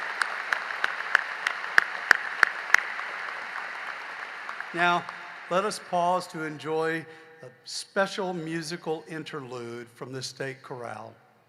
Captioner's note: applause